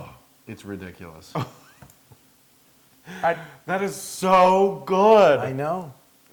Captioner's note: laugh